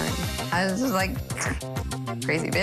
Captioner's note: snickers